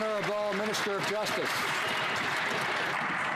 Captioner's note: some Applause